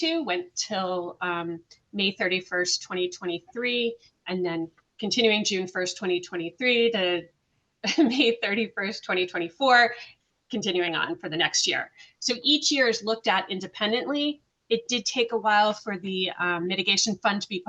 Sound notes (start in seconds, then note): 7.2 laughs